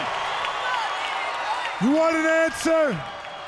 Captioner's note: crowd chatter